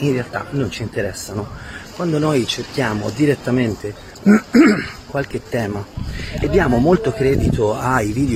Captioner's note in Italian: schiarire la voce